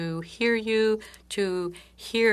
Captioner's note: speaking French